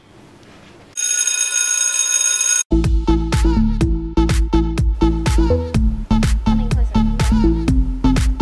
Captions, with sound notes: (school bell rings) (upbeat techno music) - Come in closer.